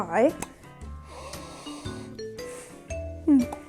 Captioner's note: sniiiiiiifffff